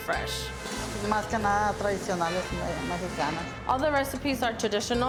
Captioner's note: speaking in Spanish